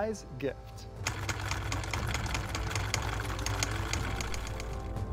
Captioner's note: machine whirring